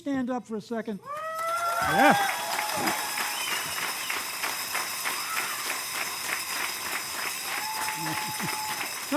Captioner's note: cheers and applause